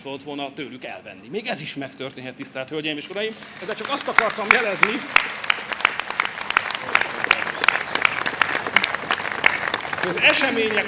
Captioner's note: applause